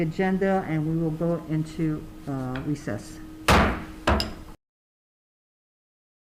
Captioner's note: gavel slams